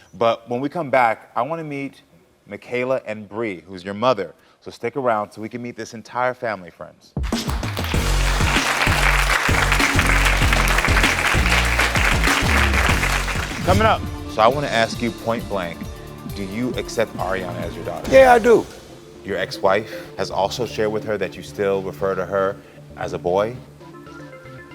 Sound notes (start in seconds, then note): 7.2 upbeat music; 7.3 applause